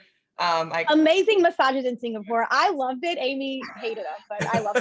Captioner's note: laughs